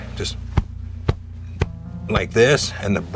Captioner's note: pounding